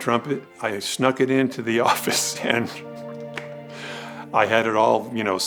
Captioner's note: chuckles